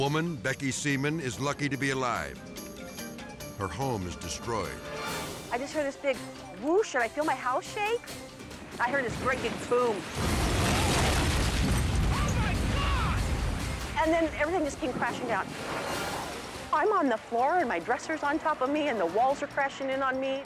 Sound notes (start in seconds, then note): 2.0 dramatic music; 4.8 dramatic air whoosh; 10.3 dramatic air whoosh; 15.0 dramatic music